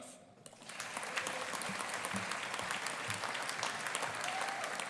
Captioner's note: audience applauding